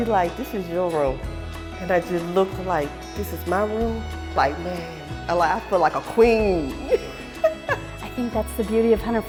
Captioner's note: laughs